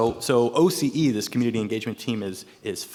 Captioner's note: none